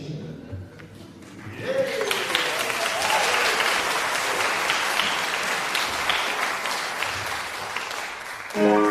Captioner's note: applause